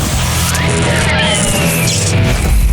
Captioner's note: electricity crackles; rock music